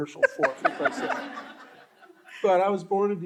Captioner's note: all laughing